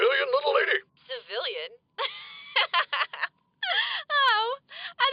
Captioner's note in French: rire